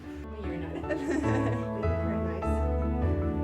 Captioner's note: hopeful music; talking and laughing